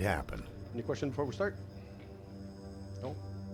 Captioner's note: voiceover